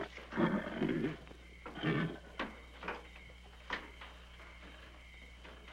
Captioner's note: crickets chirping; horse chuffing